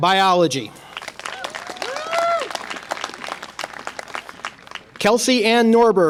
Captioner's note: audience applause and cheer